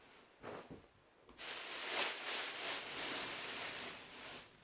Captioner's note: plastic bag rustling